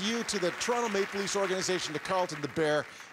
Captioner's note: cheers and Applause